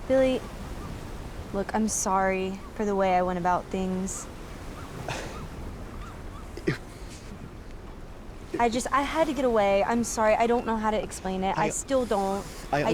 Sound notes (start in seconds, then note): 5.0 Billy scoffs; 6.7 Billy stammers